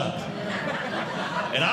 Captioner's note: audience Laughing